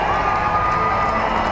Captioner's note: cheering